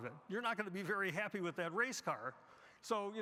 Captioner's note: none